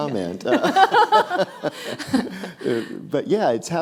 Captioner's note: both laughing